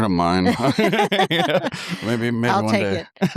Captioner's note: laughter